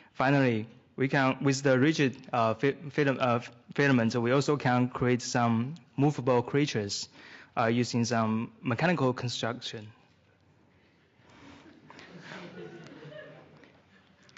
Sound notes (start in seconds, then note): 11.6 laughter